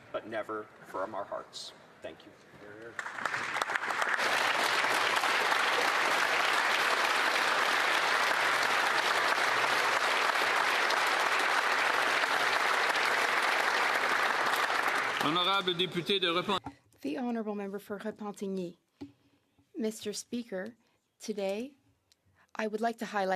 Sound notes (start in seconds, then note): 11.2 applause